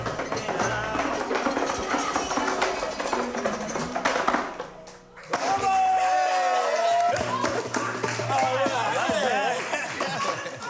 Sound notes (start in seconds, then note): 5.2 cheering and applause; 8.8 laughter